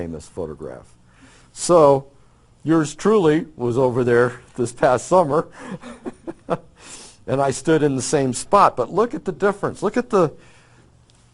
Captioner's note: laughs